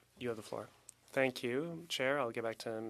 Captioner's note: speaking French